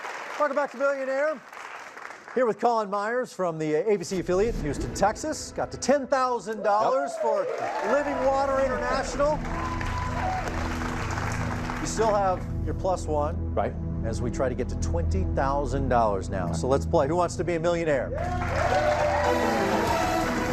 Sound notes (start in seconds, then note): 10.1 cheers and applause; 18.1 dramatic musical flourish